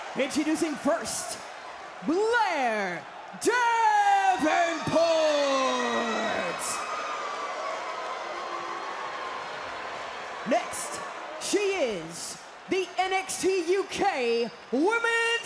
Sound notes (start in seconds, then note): 0.0 crowd cheers; 6.4 crowd boos